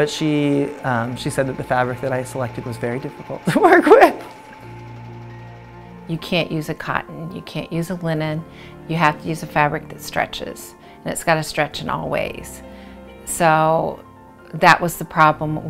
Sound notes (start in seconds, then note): 4.1 laughter